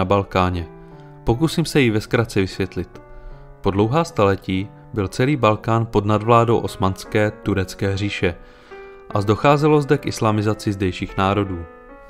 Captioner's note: Turkish